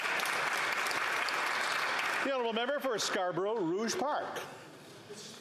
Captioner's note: some Applause